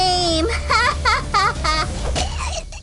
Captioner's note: laughter